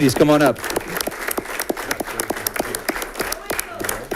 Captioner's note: audience clapping